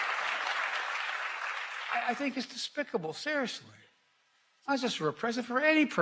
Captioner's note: applause